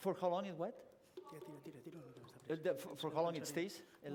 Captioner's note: non-english speech